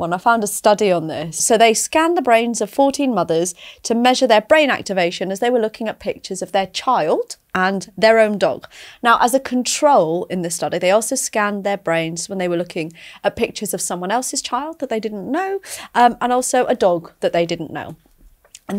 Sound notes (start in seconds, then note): none